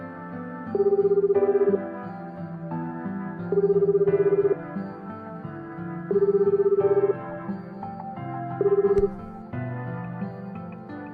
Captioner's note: phone ringing